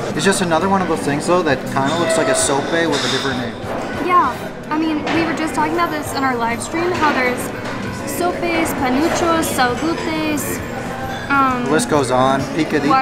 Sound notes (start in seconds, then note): none